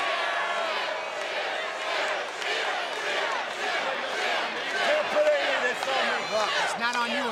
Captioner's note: applause